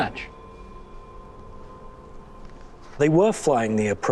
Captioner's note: humming